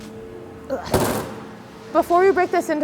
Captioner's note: grunts